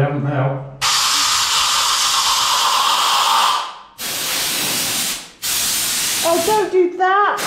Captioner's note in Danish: kompressorluftstøj